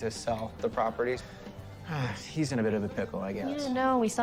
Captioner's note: sighs